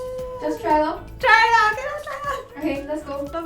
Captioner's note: flap wings